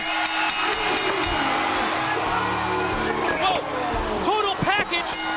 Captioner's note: bell ringing